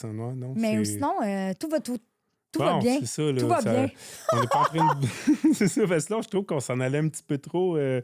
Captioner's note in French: rires